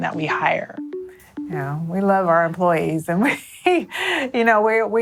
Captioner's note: laughs